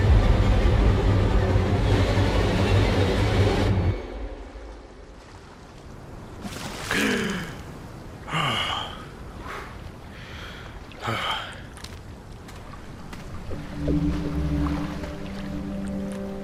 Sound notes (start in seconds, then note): 7.0 gasp